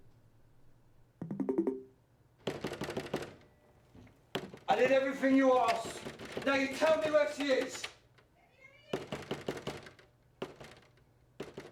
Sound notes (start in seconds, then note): 2.4 banging on the door; 8.9 frantic knocking on door